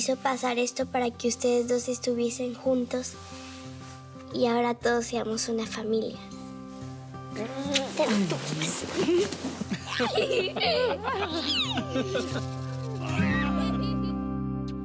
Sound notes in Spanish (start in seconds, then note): 9.5 Risas